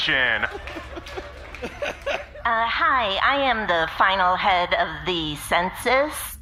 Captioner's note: audience laughing